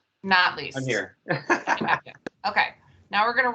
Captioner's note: laughter